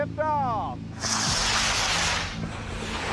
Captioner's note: rockets hissing